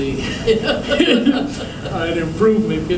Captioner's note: laughter